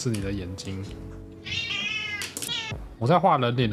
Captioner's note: the cat is barking